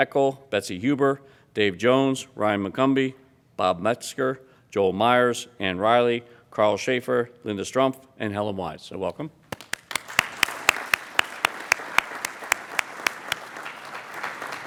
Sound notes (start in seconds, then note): 9.5 applauding